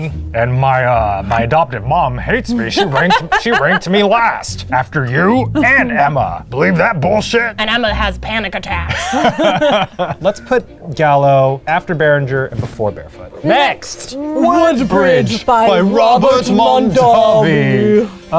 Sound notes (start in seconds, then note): 8.8 both laughing